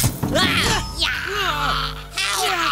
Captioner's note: grunting